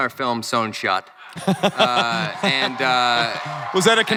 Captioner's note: crowd cheering